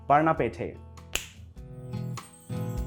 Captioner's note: snap